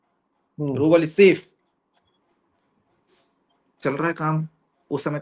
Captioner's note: nasal voice